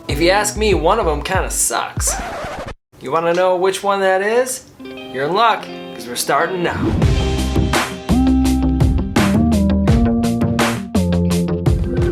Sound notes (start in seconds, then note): 2.1 record scratching; 6.4 upbeat music